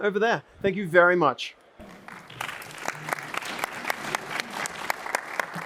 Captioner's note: applause